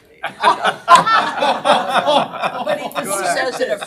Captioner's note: all laughing